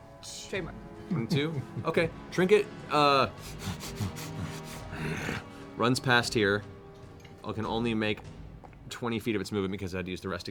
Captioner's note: bear sniffs and growl